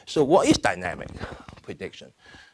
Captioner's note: none